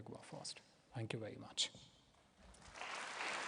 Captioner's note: applause